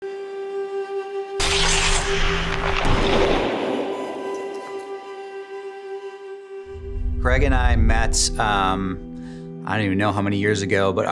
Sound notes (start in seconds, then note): 1.4 ice skate sliding; 1.5 gentle music